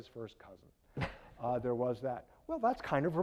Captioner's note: laughing